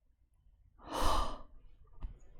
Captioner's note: breathes